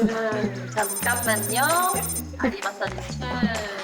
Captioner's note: sound effect of thinking quickly